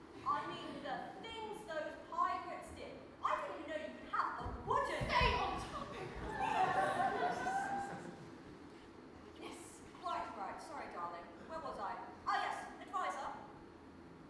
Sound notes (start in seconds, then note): 5.8 audience laughs